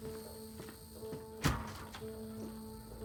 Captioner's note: door opens